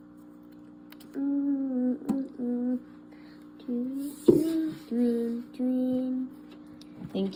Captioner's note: humming